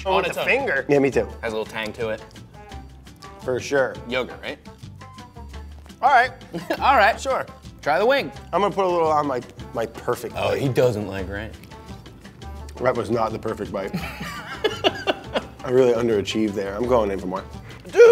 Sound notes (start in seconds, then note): 13.8 laughs